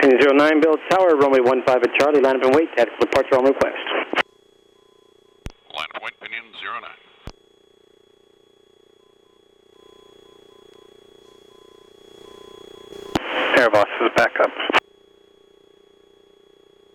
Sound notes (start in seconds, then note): 8.4 systems humming and beeping